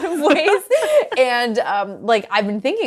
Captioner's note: laughing